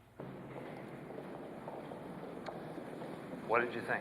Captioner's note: feet clacking